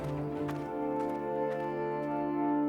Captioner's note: footsteps crunching gravel